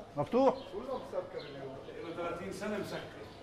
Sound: Arabic

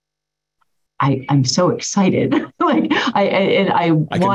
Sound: laughs

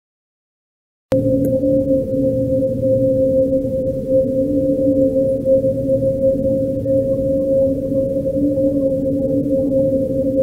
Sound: chilling sound

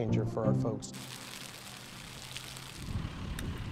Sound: fuego crepitando

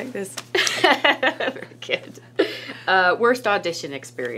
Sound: laughs

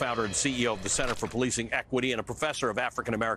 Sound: gun shots

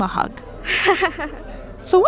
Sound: kind laughter

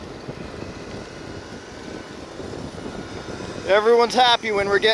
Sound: whooshing

